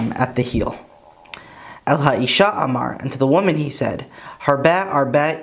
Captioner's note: Hebrew